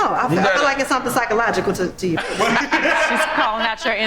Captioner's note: group laughs